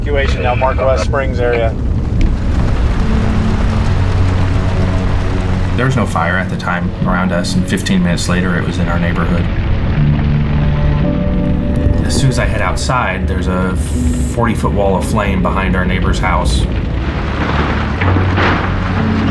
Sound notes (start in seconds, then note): 2.6 flames roaring; 9.5 flames roaring; 17.1 flames roaring, loud crash